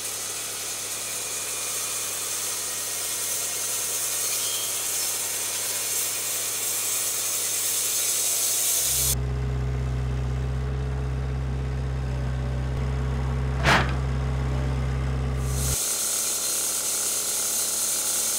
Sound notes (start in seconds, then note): 8.9 forklift engine roaring; 15.3 saw revving